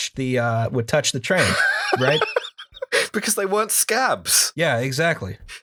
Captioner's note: laughter